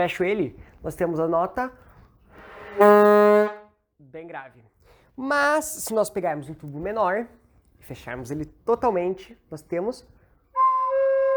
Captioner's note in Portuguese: som grave; som agudo